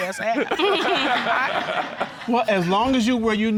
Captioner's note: all laughing